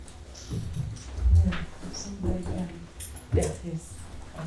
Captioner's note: speaking portuguese